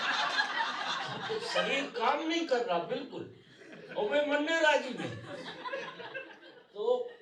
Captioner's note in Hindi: हंसी; हंसी